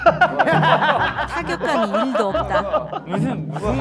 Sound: sitcom audiences

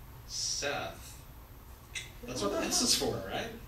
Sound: clicks tongue

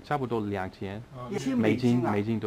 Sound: mandarin

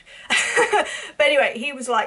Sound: laughs

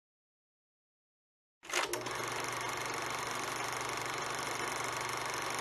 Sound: film projector rolling

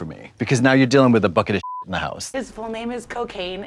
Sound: beep

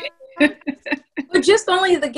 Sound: laughing

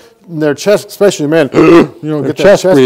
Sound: aggressively breathes

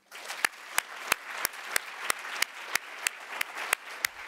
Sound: audience applauding

